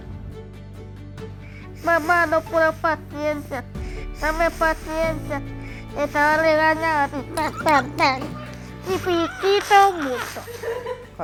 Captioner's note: gesture and laughs